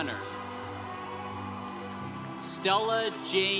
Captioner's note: congregation cheering